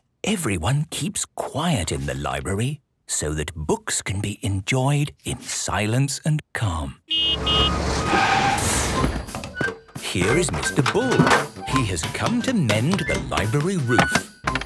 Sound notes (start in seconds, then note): 7.1 honking, engine revving; 14.4 banging, crashing